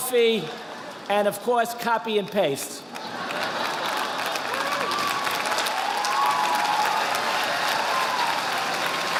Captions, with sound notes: coffee, and of course copy and paste. (audience applauding)